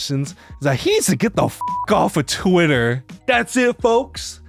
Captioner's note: beeps